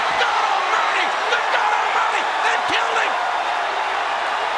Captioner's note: crowd chattering